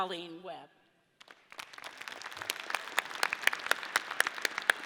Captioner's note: audience applauds